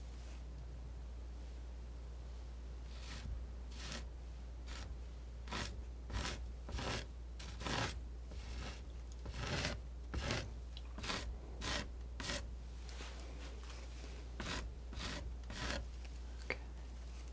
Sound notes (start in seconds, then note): 14.3 scratching